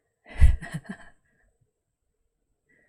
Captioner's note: laughs